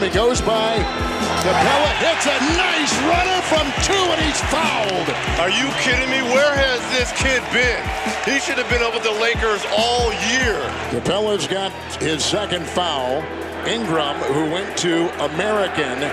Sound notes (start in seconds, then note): 3.5 crowd cheering